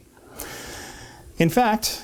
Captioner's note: deep inhale